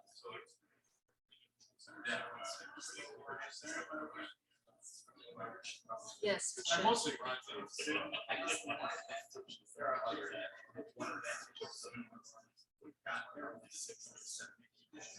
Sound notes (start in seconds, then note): 0.2 people chattering indistinctly; 9.2 people chattering indistinctly